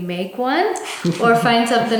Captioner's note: laughs